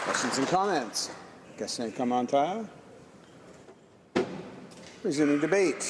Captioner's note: applause